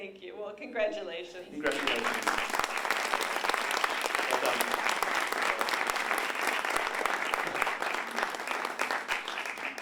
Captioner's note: applause